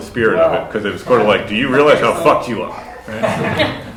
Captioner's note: laughter